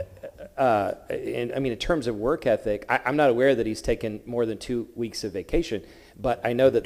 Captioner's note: laughter